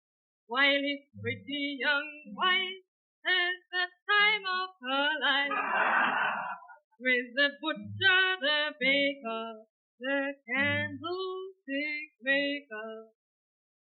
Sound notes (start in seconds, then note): 5.5 audience laughing